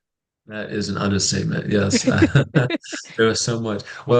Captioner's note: brief laughter